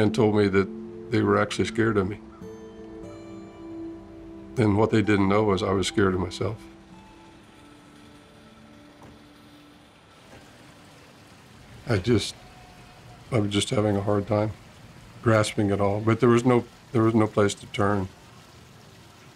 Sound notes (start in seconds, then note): 9.9 fountain splashing